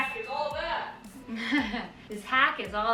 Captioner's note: laughing